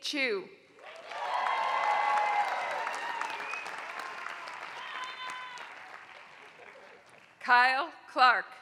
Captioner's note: applause